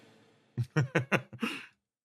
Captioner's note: laugh